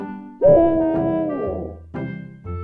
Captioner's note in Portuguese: Gritos